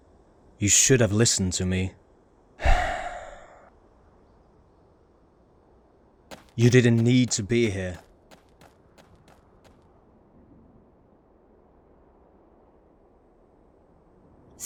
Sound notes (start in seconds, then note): 2.6 sigh